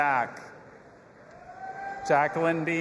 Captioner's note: audience applauding and cheering